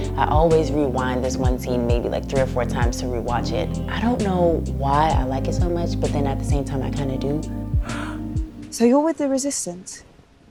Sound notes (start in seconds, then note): 7.8 gasping